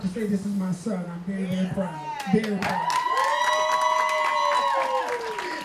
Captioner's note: cheering